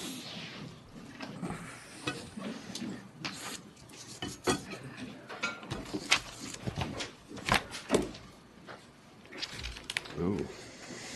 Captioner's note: snorts